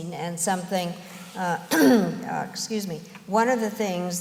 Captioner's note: clears throat